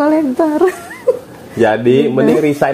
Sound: laughs

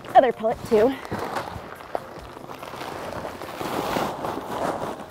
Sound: bag rustles

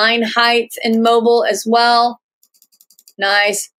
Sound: clicking

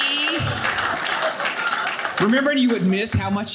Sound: audience cheering

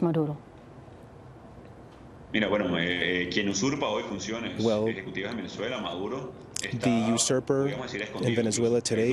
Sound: speaking spanish

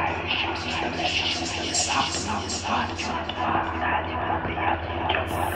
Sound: whispering

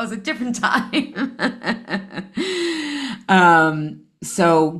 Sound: laughs

